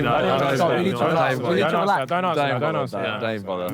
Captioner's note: Sidemen groan